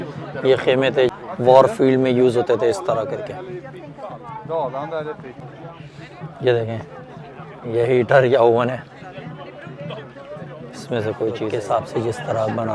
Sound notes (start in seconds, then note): 0.0 people speaking; 4.2 people speaking